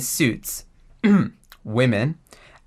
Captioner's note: ahem